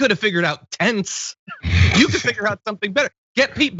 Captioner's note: laugh